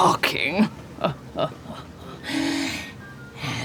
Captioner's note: laughs